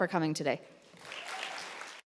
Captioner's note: audience applauds